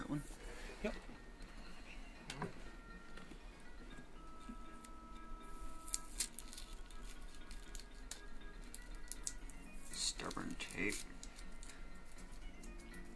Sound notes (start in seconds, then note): 5.8 paper rustling